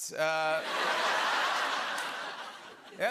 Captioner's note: laughter